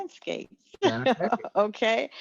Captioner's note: laugh